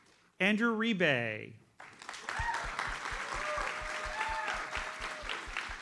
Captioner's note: audience applauds